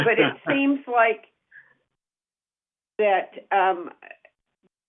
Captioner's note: laughter